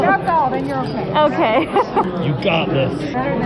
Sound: laughs

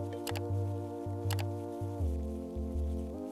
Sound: mouse clicking

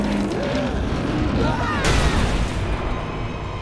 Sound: creaking; screaming, thudding

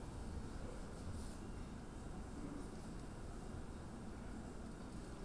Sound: audience chattering

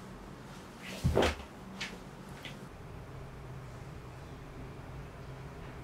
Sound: footsteps walking away

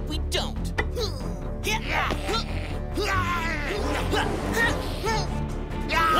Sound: shouts and growls

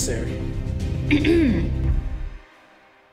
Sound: clears throat

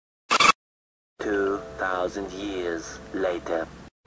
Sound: 2,000 years later voice from SpongeBob SquarePants

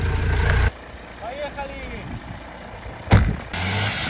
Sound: speaking Russian

